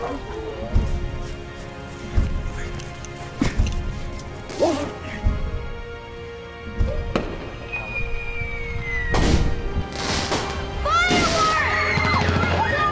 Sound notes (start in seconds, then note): 0.6 dramatic music intensifying; 6.9 screeching; 9.2 crackling fireworks; 10.8 children shouting